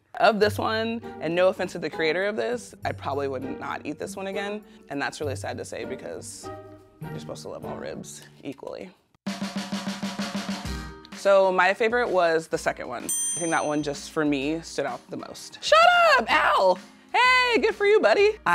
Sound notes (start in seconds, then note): 9.9 upbeat music continues; 13.1 bell dings